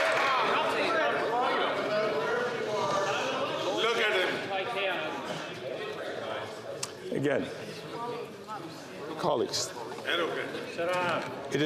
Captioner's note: chatter